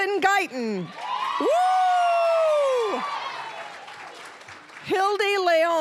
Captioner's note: cheering, applause; applause